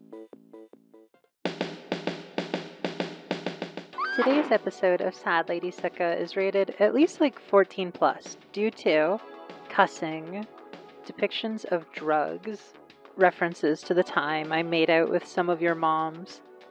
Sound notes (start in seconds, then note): 3.9 woman screaming; 4.0 thud; 4.0 slightly distorted